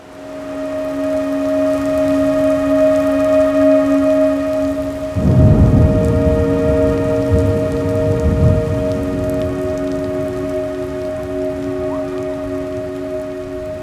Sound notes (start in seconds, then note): 0.1 soft gentle music; 4.8 thunderstorms